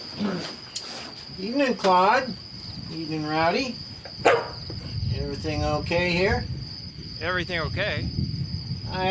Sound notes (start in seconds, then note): 4.2 dog bark